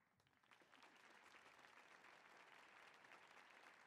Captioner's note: audience applauding